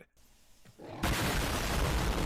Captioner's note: explosion